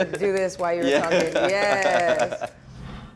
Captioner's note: laughing